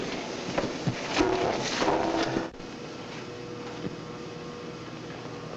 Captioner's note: machinery humming